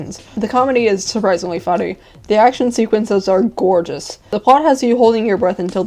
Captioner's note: none